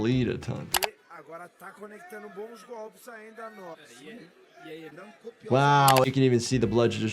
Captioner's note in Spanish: comentaristas hablando